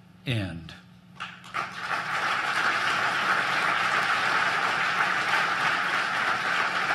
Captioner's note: applause